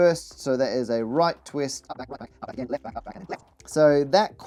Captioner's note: sped up audio